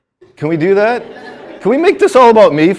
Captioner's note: students laughing